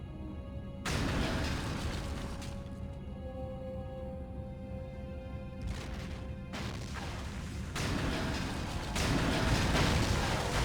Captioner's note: explosion